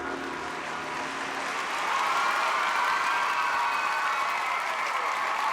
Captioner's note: applause, cheers